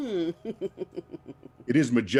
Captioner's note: chuckle